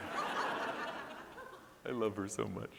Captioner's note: audience laughing